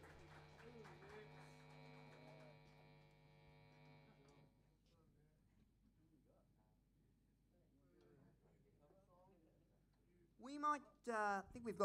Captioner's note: applause